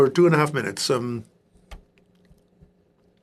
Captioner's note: speaking in French